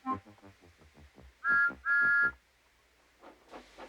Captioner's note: toots